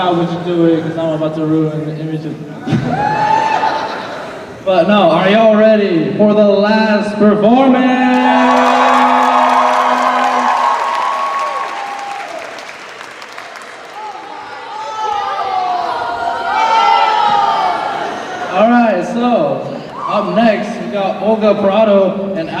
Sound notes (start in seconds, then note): 2.7 cheering; 7.9 cheers and applause